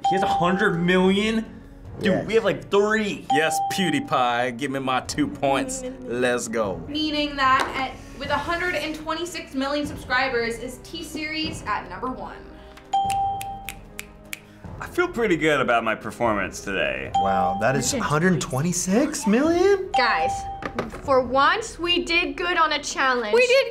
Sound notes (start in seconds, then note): 12.9 bell rings; 13.0 snaps fingers